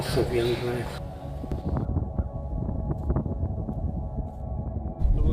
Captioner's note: wind whipping